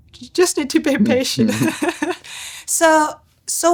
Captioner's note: chuckles